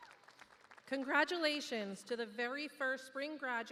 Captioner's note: cheers and applause